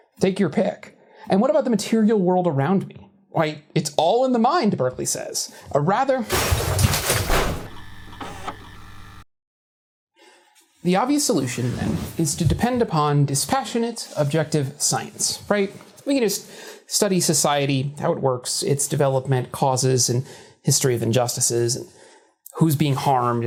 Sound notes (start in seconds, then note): 6.3 CRASH, as the gesticulation breaks everything; 8.2 VHS tape restarting